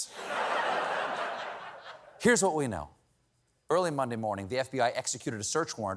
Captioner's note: laughter